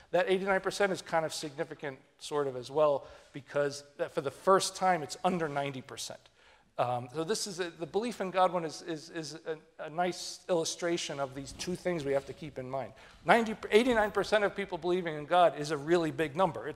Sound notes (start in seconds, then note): none